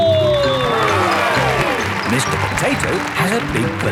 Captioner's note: cheering